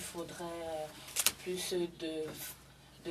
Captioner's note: speaking French